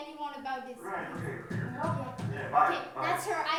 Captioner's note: door knocks